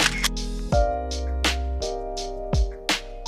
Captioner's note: camera clicking sounds